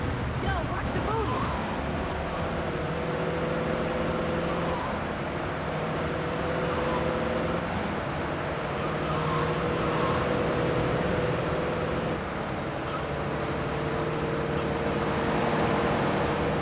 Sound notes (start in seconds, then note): 3.1 engine roaring